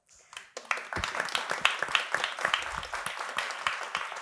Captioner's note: audience applauding